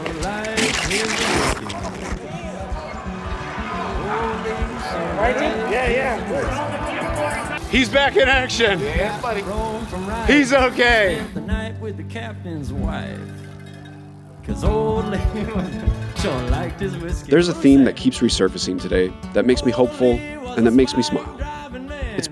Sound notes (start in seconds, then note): 7.3 pat; 10.4 pat; 17.3 pat